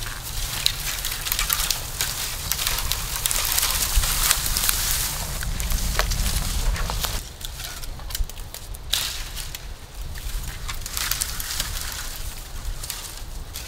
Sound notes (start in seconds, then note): 3.8 trees crunching